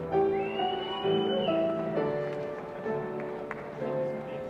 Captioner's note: whistling